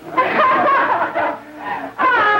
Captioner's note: laughing